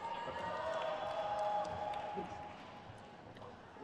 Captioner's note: crowd cheers